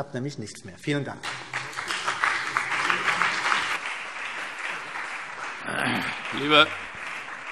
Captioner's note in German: Beifall CDU und BÜNDNIS 90/DIE GRÜNEN